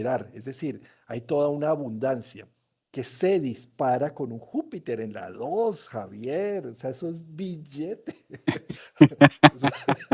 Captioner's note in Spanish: risas